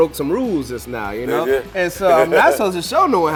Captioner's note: laughing